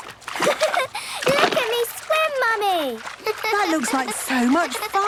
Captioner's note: giggles